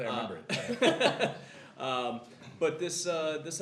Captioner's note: laughter